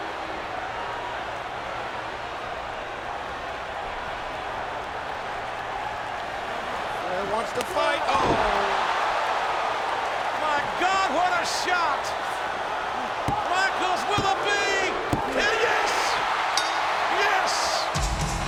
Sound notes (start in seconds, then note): 0.2 crowd clamoring continues; 16.4 bell rings